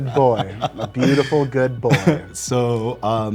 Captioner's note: man laughing